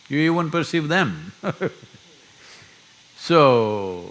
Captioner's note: laughs